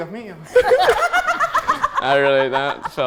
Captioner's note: laughs